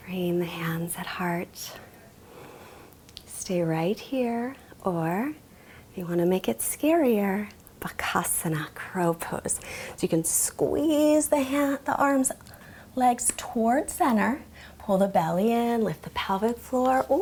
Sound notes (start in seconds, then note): 8.0 speaks in foreign language